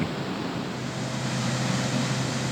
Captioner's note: river water flowingg through dam spillway